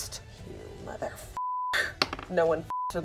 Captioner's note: beep